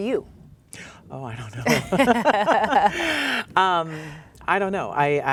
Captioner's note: laughs